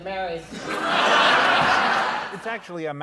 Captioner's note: laughter